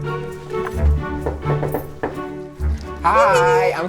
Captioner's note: inspirational music; knocking